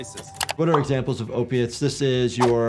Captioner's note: mouse clicking; text popping; screen swooshing